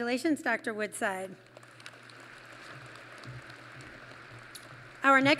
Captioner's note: applause